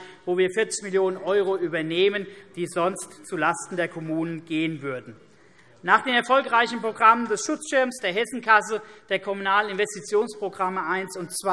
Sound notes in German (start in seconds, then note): none